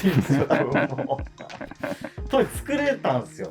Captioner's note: laughing